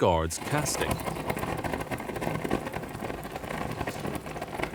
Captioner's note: flames roaring